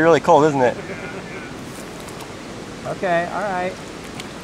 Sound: laughter

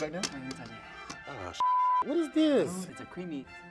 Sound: beep

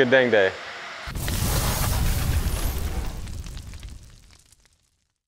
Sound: logo sizzling

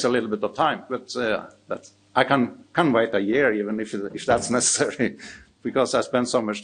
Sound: chuckles

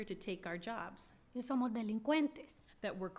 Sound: speaking spanish

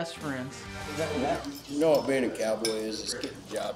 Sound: all chattering

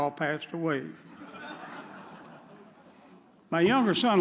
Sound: audience chuckles

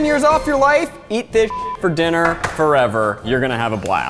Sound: beep

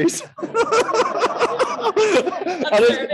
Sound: laughter

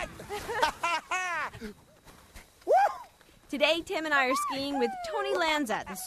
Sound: laughing

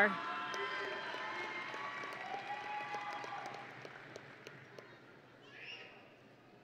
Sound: audience and graduates cheering

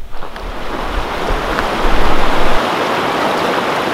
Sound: water rushing

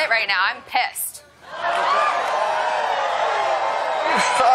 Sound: audience yelling

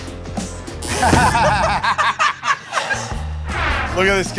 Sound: laughter

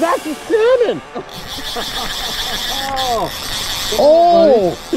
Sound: reel whirring; laughing

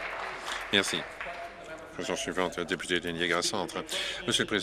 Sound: applause

